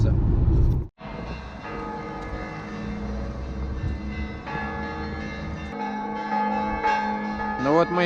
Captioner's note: bells ringing